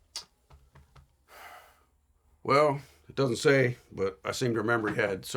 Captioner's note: sighs